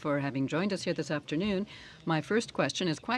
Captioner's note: speaking French